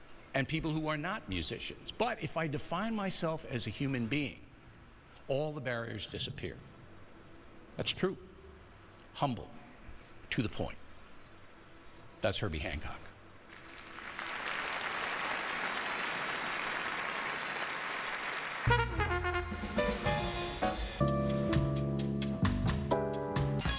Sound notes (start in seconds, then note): 16.6 applause; 23.6 mellow jazz playing